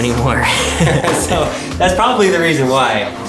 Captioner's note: laughing